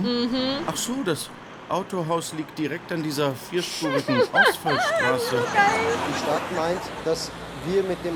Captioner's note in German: lacht